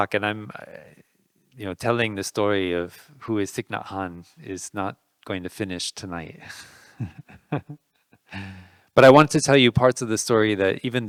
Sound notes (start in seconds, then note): 6.4 laughing